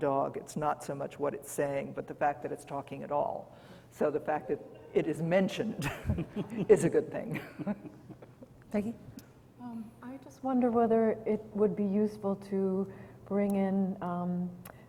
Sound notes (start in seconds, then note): 5.8 laughs